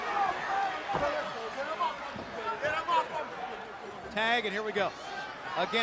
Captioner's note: crowd chatter